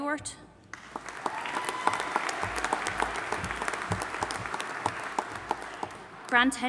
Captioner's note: audience applauding and cheering